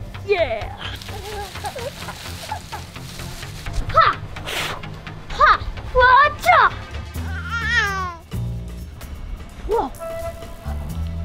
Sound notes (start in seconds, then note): 0.0 baby laughing; 4.0 boy shouting